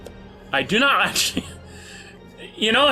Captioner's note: chuckles